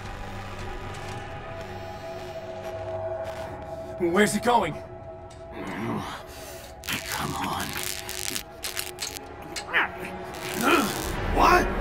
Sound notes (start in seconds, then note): 6.8 electricity crackling; 7.6 rat squeaks; 10.5 Wheeljack grunts